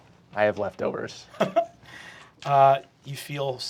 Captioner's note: laughing